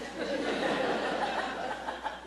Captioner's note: laughter